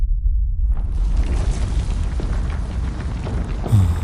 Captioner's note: the church begins to rumble and shake, interrupting your conversation